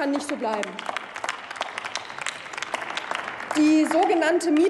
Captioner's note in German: Applaus